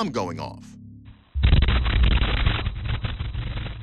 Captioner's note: thunderous boom